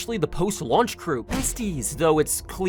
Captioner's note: loud source-engine smack